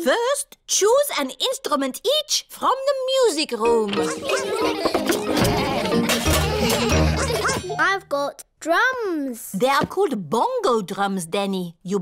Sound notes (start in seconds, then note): 4.0 laughter